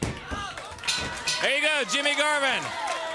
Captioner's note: bell ringing